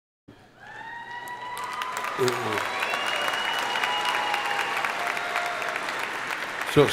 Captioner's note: crowd cheering; crowd applauding